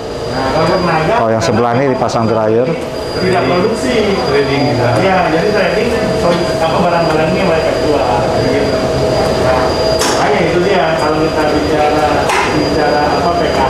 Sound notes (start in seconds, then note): 2.0 distant chattering